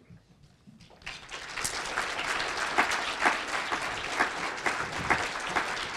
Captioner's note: applause